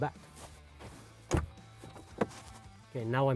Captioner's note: door opens